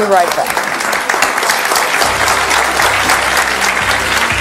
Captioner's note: audience clapping